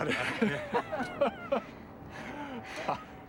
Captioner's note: laughter